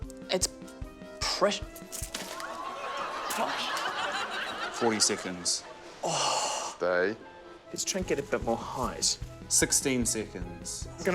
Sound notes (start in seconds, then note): 2.4 groans, laughter